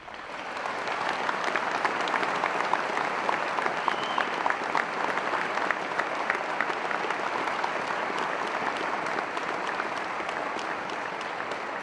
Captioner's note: applause